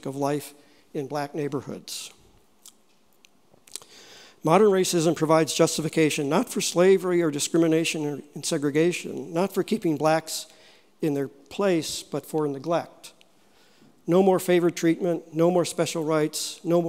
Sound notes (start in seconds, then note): none